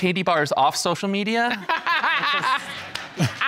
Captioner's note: judge laughing